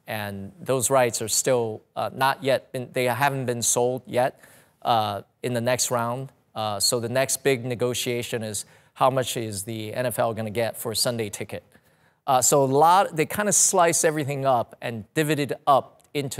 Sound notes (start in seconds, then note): none